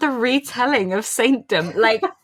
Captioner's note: laughs